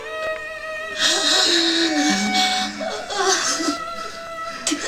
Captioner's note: cry